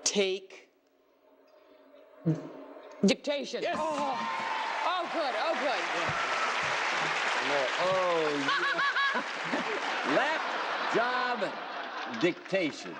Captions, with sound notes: -Take. -Dictation. -Yes. -Oh, good, oh, good. (applauding) (laughing) -Lap, job, dictation.